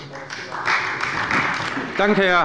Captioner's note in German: Beifall bei Abgeordneten der CDU